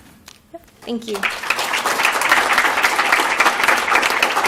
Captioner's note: applause